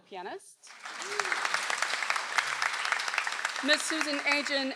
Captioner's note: audience applauds